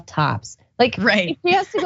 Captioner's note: laugh